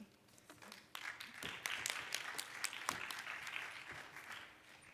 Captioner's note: audience claps